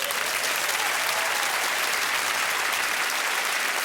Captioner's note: cheering and applause